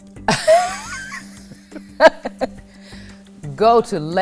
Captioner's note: laughter